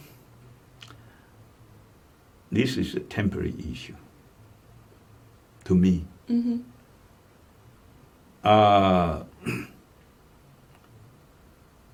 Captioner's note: clears throat